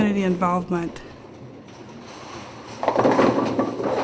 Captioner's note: clatter of ball & the pins colliding